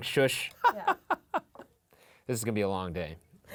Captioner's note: laughing